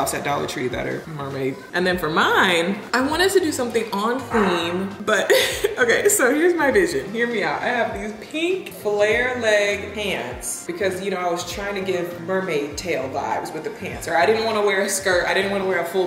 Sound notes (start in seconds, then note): 5.1 chuckles